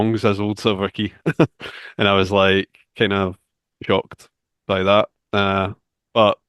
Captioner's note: laughs